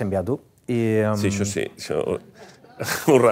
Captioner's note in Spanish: risas